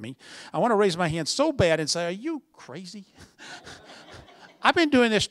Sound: laughter

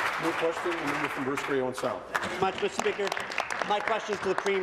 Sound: applause

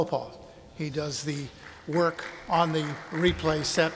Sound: audience applauding

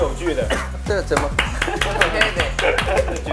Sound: applause

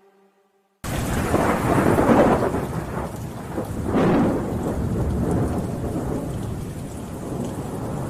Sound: down pouring rain, thunder rumbling in the distance

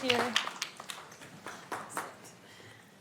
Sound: applause

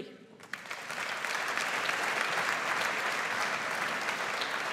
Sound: audience applauds

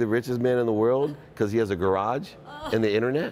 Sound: lady laughs

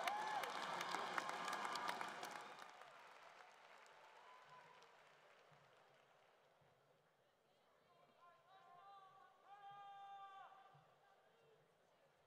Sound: cheering and Applause

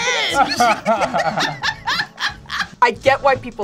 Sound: both laugh

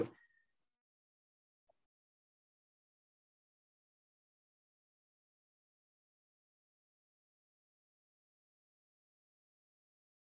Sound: audio Cuts Out

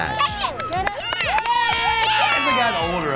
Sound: clapping

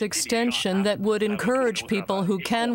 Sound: speaking French

